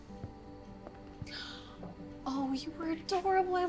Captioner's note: gasps